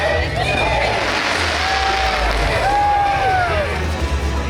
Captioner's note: firework fizzle